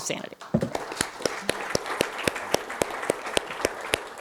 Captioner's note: applause